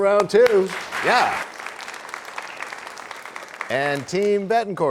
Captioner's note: applause